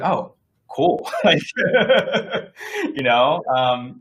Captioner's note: laughing